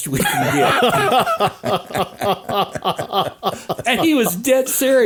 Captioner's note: all laughing